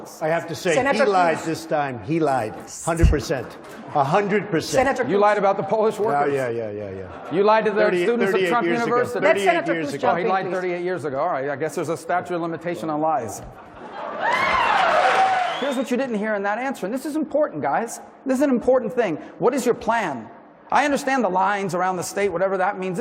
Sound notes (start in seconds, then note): 13.4 laughter; 14.9 applause